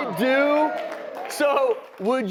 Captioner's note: crowd Cheers